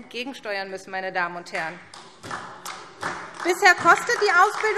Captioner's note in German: Beifall SPD